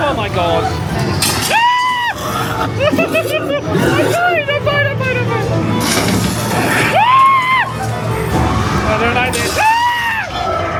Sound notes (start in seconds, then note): 1.5 screaming; 2.7 laughs nervously; 5.8 machine cranks; 6.0 spooky music; 6.6 everybody screaming; 9.2 guests screaming; 9.5 screaming; 10.6 spooky music